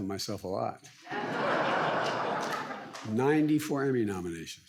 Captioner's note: audience laughs